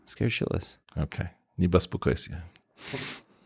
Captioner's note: speaking foreign language